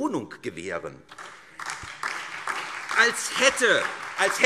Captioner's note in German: Beifall SPD und DIE LINKE